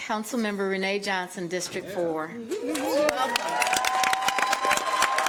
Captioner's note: applause